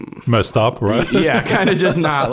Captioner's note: laughing